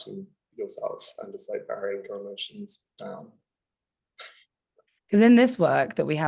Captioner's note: chuckling